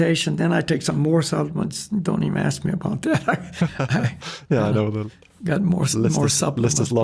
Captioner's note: laughs